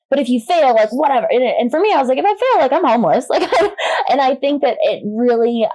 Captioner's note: laughs